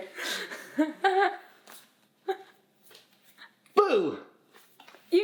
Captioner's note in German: lacht